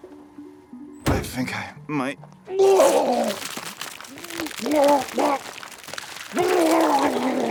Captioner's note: retches; Walter retching